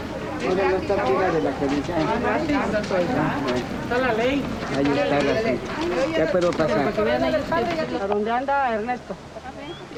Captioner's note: group mumbling